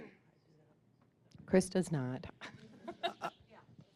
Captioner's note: laughing